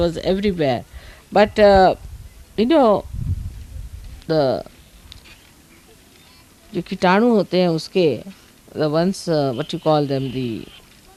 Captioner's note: hindi